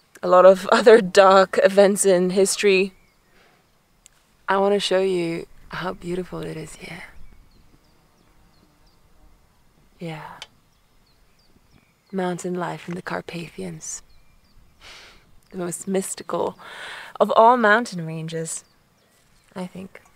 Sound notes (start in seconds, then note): 3.8 blows; 7.3 birds chirping